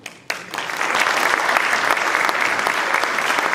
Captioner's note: applause